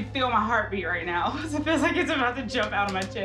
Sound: laughs

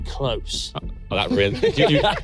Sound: everyone laughing

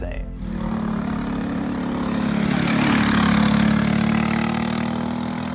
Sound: engine race sounds

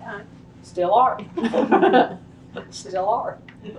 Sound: laughter

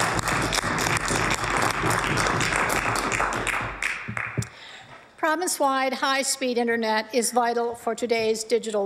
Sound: applause

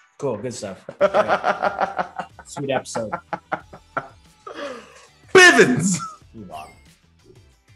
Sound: laugh

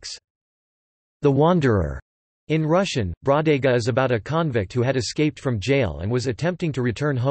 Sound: in Russian: Бродяга

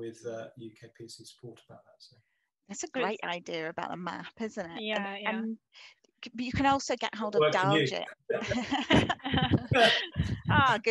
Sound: laugh

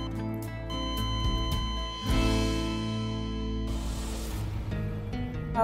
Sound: heart monitor flatline

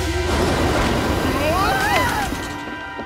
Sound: screaming

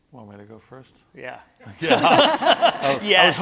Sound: everyone laughing

